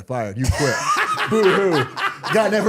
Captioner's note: Cody laughing